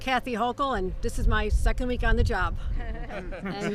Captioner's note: laughter